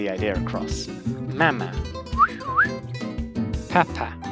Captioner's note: whistle